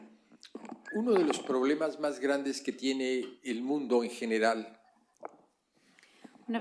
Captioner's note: speaking spanish